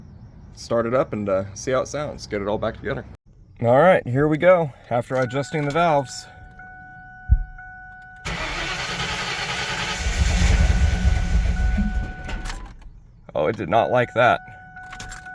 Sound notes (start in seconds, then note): 5.5 key Dinging; 8.2 engine Cranking; 8.2 continues cranking; 8.2 engine slowly catching